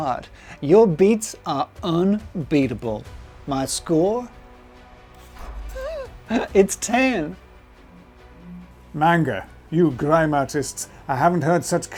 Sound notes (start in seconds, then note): 3.9 dramatic music; 5.6 laughs